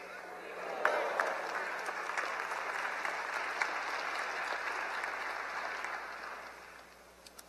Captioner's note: applause